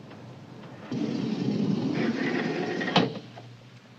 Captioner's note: door slides open